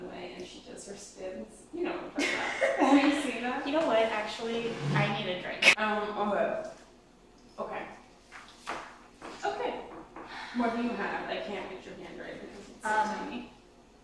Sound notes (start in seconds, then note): 2.2 women laugh